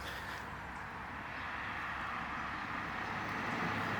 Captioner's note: car passing